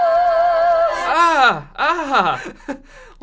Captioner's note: laugh